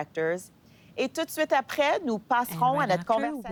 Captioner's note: speaking French